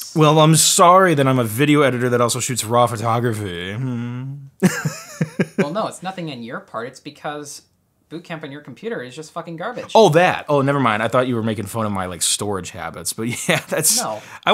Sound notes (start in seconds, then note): 4.6 laughs; 13.9 laughs